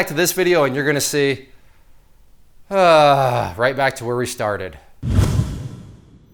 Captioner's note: sighs